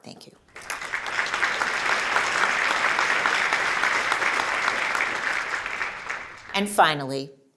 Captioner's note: applause